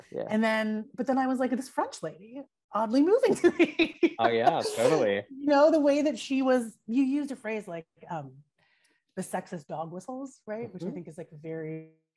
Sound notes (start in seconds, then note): 3.3 laughs